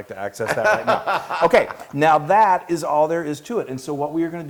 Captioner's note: laugh